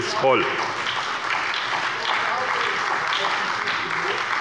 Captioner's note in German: Beifall bei der SPD